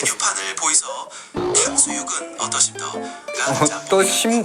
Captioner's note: fake Dialect